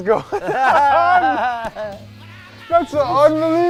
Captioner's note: laughs